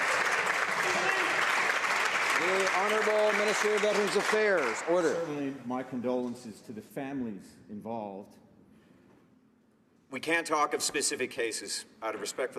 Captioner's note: some Applause